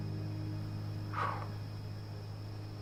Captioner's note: exhales